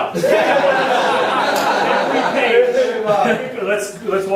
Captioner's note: audience laughing